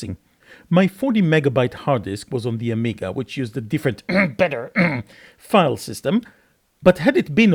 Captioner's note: cough